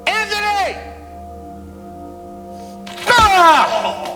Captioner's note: exclaims